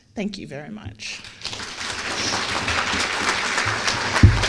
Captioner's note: applause